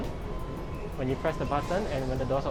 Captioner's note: elevator beeping